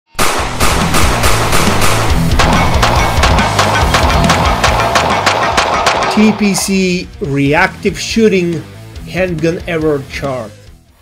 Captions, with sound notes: (upbeat music) (gun shooting) - TPC reactive shooting handgun error chart.